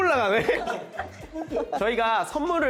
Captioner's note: heh